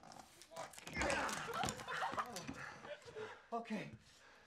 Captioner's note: laughing and cheering